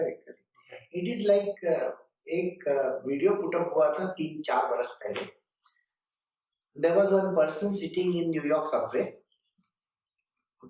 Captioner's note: Hindi